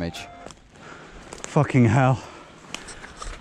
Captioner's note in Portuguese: Em sotaque britânico